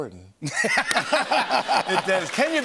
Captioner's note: laughter and applause